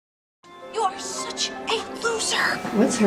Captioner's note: voices